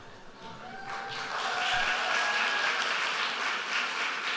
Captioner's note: applause